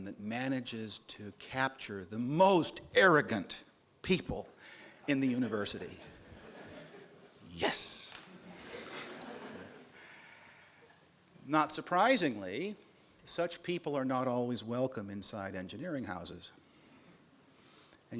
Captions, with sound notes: that manages to capture the most arrogant people in the university. Yes. [LAUGHS] Not surprisingly, such people are not always welcome inside engineering houses.